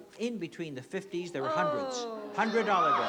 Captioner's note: groans